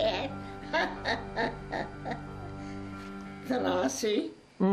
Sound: laughs

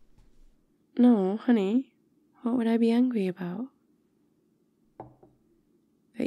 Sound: glass on table

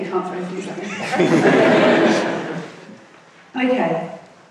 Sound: laughing

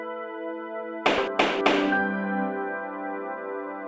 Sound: gavel sound

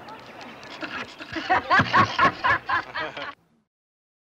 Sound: all laughing

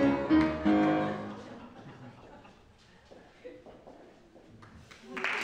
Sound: audience laughs

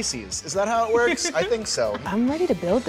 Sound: laughs

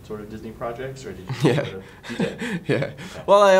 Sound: laughs

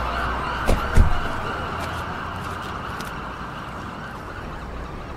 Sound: car doors closing

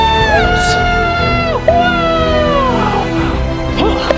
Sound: screaming; suspense music

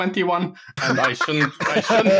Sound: laughter

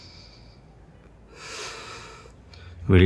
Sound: inhales; exhales

